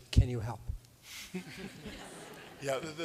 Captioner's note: laughter